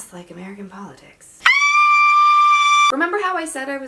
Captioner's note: screams